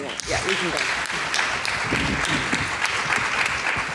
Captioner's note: audience clapping